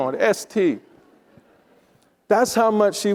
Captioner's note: attendees laughing